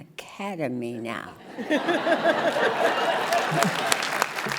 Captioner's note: laughing